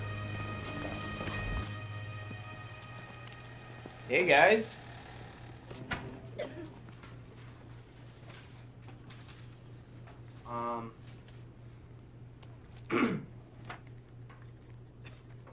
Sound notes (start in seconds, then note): 5.8 student coughs; 12.8 Joey clears throat